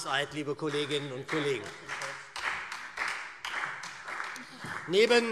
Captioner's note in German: Beifall SPD